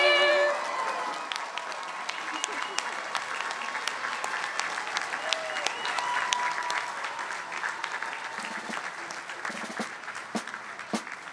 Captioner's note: applause